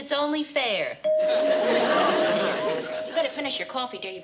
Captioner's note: doorbell rings